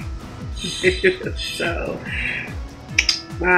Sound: chuckles

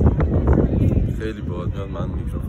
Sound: wind blows

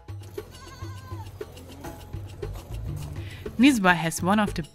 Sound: goats bleating

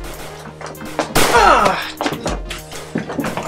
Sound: bang!; gunfire

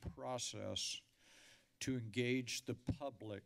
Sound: inhales deeply

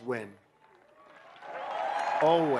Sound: applause

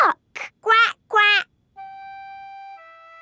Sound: quacking

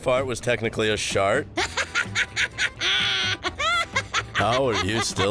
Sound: laughter

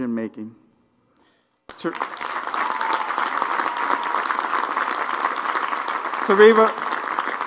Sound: applause

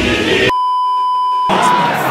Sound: beeeeeep

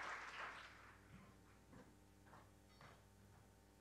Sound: applause

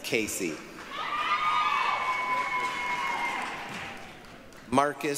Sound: applause, cheering

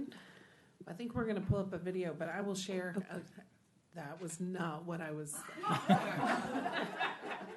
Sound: laughter

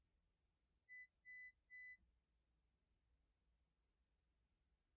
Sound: test beeps

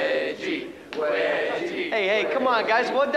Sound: chanting continues

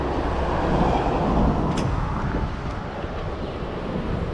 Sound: none

